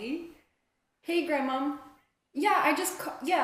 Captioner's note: on phone